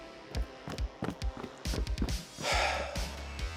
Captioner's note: running footsteps; sigh